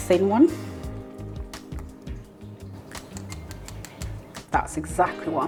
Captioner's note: crispy tapping